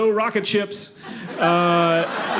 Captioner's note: audience laughing